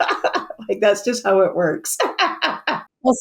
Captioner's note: laughs; laughs